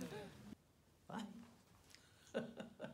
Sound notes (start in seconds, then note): 2.2 chuckles